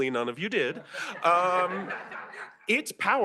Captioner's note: laughter